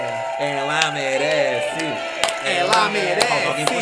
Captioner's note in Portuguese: palmas